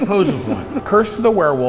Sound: haunting noise

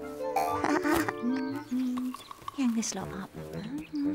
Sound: giggles

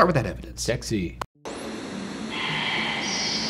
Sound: screen fizzing

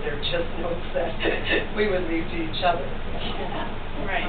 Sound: chuckles

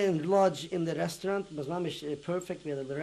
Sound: non-english

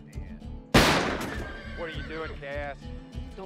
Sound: horse whinnies

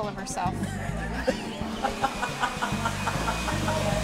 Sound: laughter

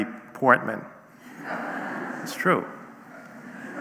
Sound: audience laughing

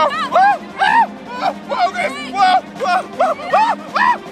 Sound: screaming

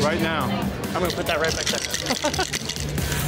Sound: laughs

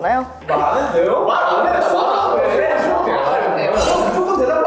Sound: producers murmuring

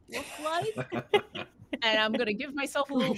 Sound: laughing

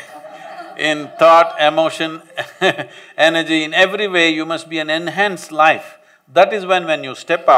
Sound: laughs

